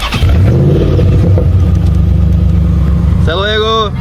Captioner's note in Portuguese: barulho de motor